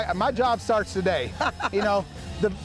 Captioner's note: laughs